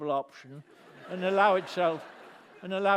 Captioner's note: laughter